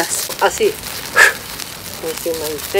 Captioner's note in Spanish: sopla fuerte